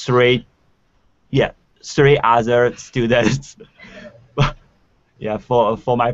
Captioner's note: laughing